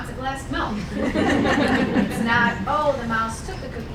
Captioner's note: laughing